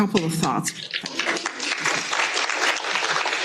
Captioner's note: applause